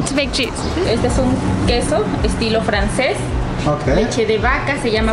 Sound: speaking in Mexican

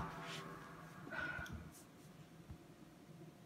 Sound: Marvy sighs

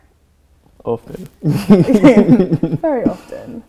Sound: chuckles

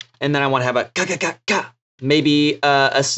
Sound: making verbal drum sounds

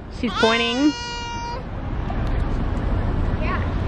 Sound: whining

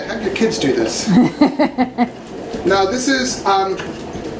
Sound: laughing

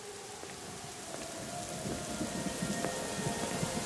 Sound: national alarm sirens

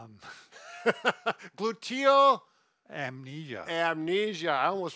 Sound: chuckles

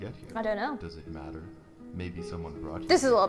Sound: male Voice

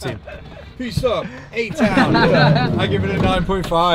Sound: laughs

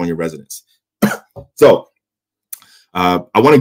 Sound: coughs

